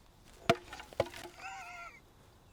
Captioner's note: foot thuds; Orn laughs